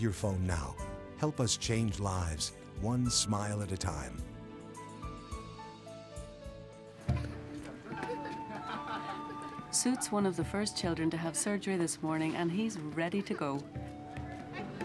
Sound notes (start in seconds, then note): 7.1 children laughing